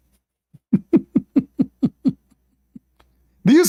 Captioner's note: Ketawa